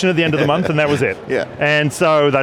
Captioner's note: laughs